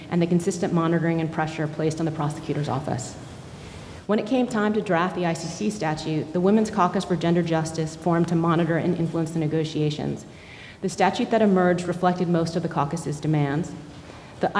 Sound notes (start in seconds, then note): none